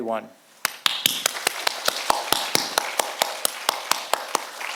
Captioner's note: audience applauding